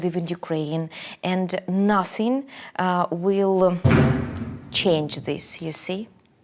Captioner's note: detonation